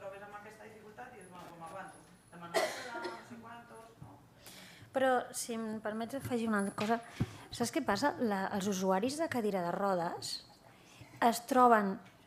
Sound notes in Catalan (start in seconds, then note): 2.8 segueix parlant fora de micro